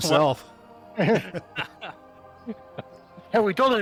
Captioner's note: laughter